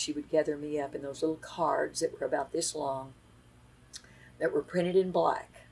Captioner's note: none